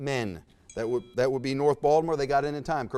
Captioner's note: buzzer sounds